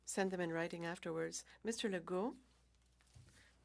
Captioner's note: speaking french